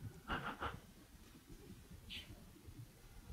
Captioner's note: laughs